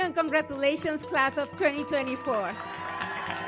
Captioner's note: cheers